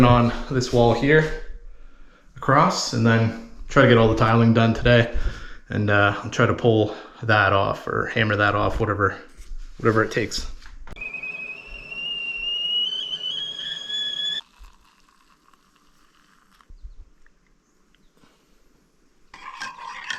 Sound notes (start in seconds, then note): 11.0 tiling machine whirring